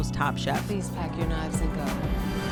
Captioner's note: soundbite of tv show, "top chef"